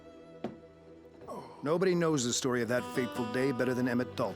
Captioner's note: sighs